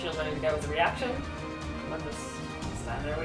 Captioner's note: none